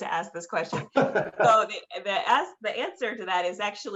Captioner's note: laughter